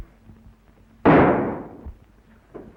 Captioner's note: gunshot